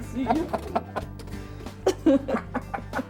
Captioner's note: laughter